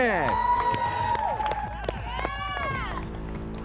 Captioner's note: all cheer